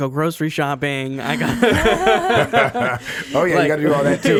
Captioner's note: laughing